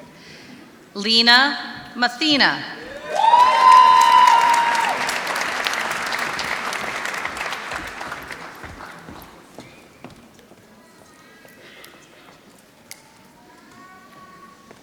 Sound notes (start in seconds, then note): 2.9 applause